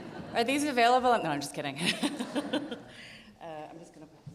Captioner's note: audience laughs; audience laughs